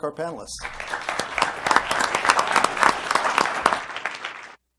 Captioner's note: applause